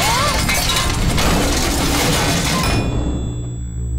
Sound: shrieking; clanking

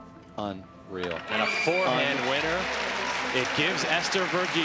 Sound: crowd cheering

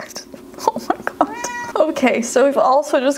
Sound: laughs

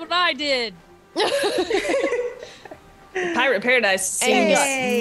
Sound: laugh

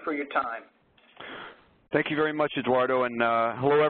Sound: voiceover

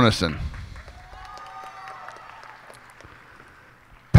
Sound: cheers and applause

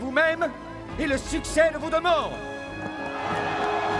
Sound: cheering

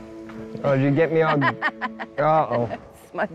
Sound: laughs

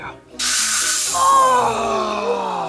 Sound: smoke sizzling out

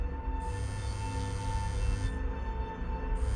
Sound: phone vibrates

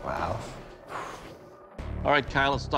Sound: exhales

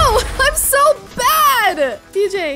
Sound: laughing

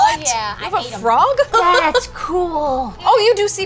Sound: laughter

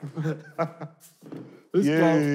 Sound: laughing

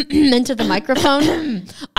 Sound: clears throat

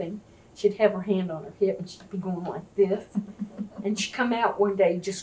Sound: laughter

